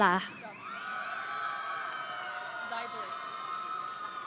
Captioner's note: audience cheering